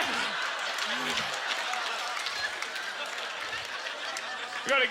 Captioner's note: laughter and applause